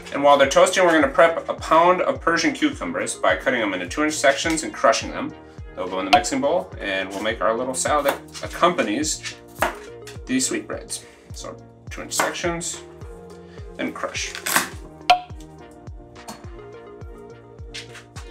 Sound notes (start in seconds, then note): 14.3 popping